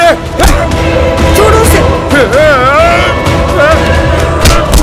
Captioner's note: Grunts; Puchki grunts